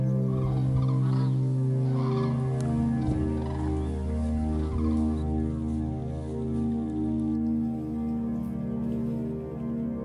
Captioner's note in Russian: крики журавлей